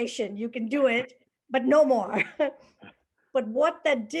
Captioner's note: laughter